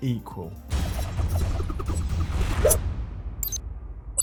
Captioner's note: logo whooshes